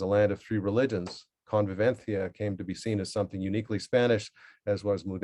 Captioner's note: spanish